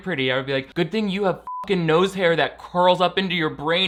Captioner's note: beep